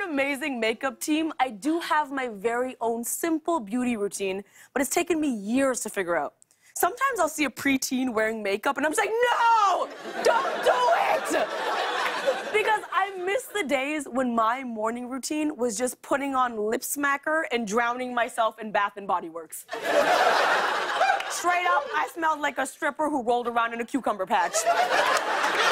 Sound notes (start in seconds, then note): 19.7 laughter; 24.4 laughter